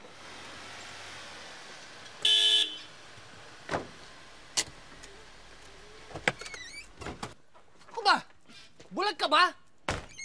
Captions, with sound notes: [car horn honks] [thuds] What's with you? Are you blind?